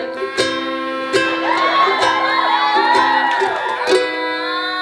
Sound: electronic sounds

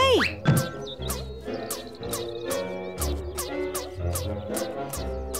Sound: springy sound effect

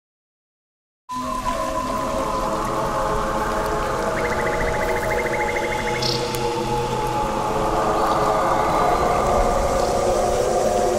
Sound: sound of nature

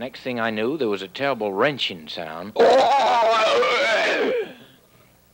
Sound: groaning

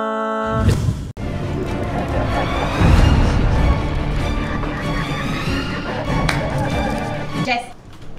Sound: cues evil laughter

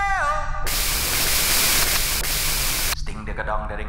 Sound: white noise

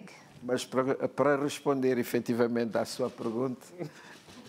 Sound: speaking portuguese

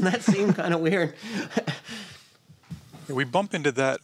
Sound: laughs

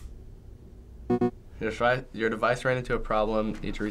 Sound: alert beeps

